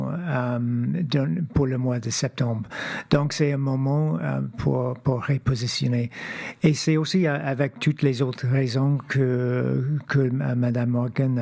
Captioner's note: speaking French